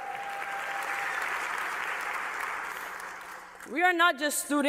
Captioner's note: cheers and applause